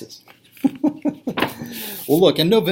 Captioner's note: laughter